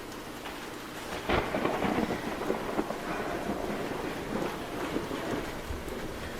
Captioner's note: thunder cracks